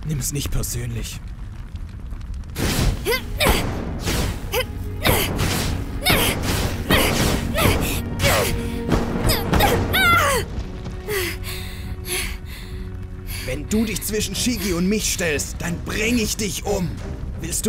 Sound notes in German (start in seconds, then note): 1.1 Damagegeräusche und so; 1.1 Heavy breathing